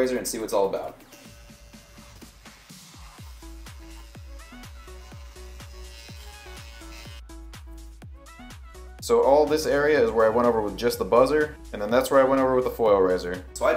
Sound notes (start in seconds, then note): 0.9 razor buzzing; 1.8 gentle upbeat music